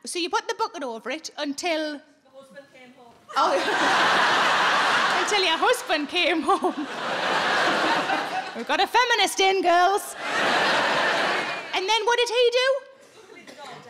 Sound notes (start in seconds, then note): 3.4 audience laughing